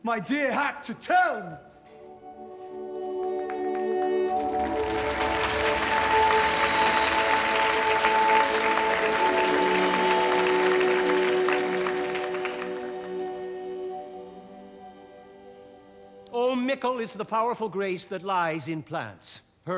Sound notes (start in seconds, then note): 4.1 applause